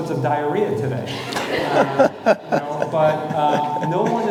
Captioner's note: audience laughing